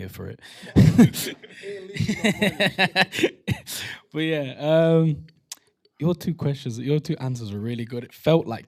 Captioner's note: laughter